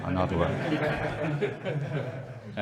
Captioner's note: laughing